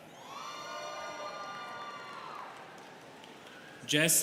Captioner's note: students cheering